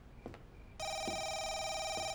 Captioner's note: phone rings